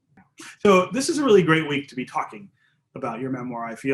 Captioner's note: laughs